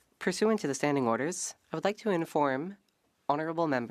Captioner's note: speaking French